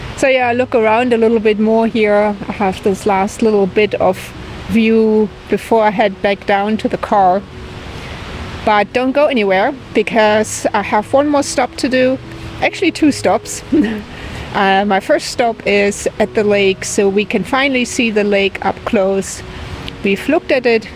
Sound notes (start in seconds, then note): 13.7 laughs